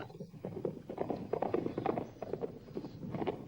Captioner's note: hoofbeats